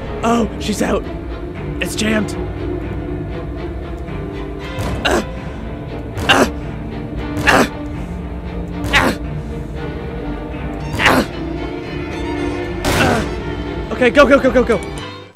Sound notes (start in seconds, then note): 3.1 grunting; 6.2 gasps